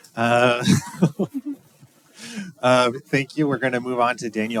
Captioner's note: laughing